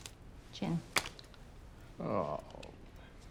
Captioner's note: groans